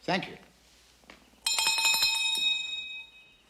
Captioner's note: bell rings